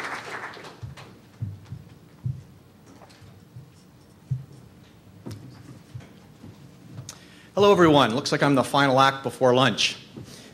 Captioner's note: applause